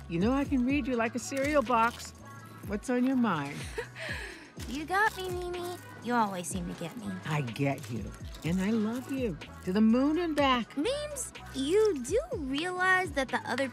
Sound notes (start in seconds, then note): 3.5 chuckles